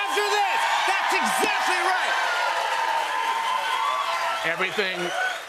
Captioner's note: cheers and applause